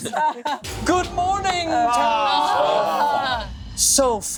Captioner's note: laughing; group groaning